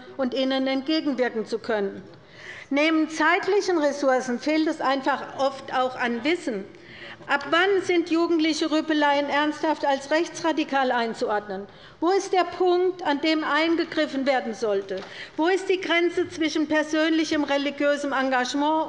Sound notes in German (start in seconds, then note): none